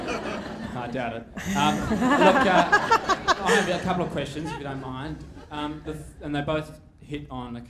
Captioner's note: laughter